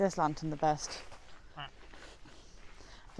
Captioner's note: makes a duck noise